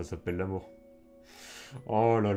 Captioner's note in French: inspire de l'air